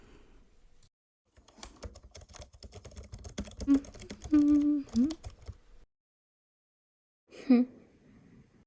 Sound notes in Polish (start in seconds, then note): 1.3 stukanie klawiatury; 7.9 wzdycha